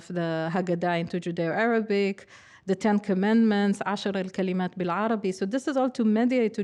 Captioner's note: speaking hebrew